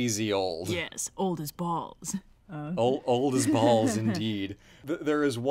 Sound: laughs

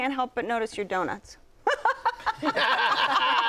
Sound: laughter

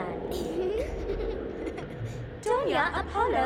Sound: תלמידי דולפינים צוחקים

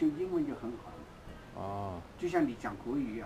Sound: mandarin

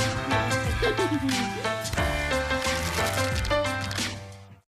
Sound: laugh

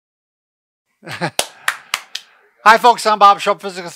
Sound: clapping

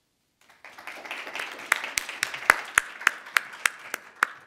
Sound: audience applauding

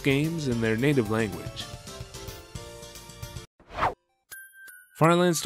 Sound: whoosh

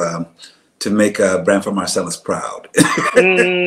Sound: laughs

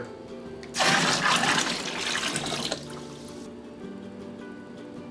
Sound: water splashing; gentle music

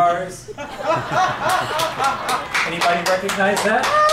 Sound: laughter

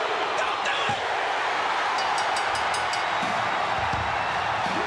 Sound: crowd cheering; bell dings

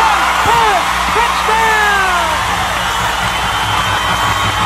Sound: crowd cheers

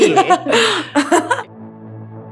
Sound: both laughing; light music

